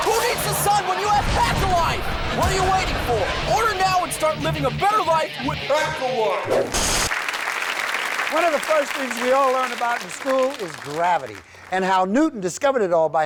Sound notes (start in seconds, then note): 7.0 audience applauds